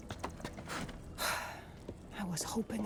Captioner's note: sigh